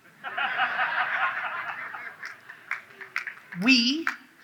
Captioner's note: audience laughs